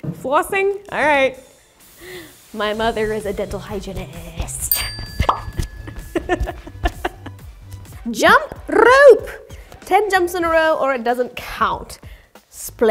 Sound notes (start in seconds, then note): 4.6 bell dings; 5.2 bubble pops; 6.0 laughs